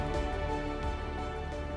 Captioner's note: footsteps shuffling